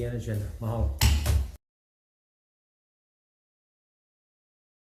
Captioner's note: gavel thuds